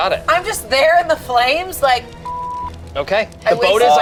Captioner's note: beep